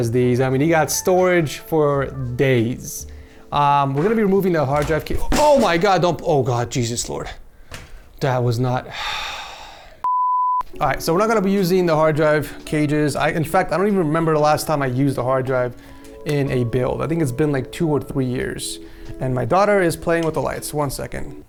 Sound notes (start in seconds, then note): 8.9 sighs